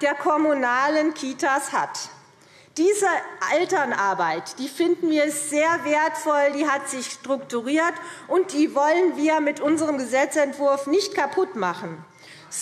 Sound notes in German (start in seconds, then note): none